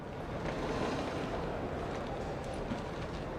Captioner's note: sound of chair being dragged